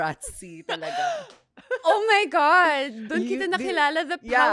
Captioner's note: laughs